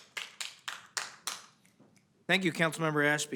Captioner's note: applause